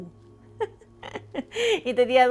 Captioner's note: laughs